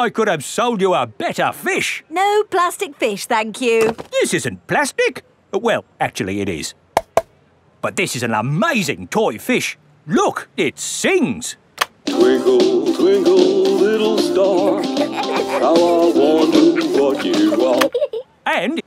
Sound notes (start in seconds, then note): 7.0 taps; 14.4 both giggling